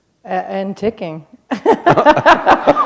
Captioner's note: laughter